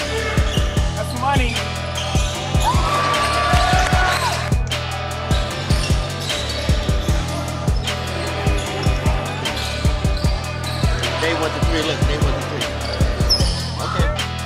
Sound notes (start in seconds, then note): 2.1 crowd cheering; 2.6 upbeat music